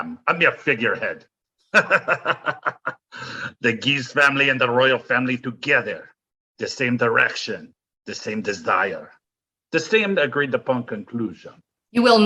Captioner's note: laughs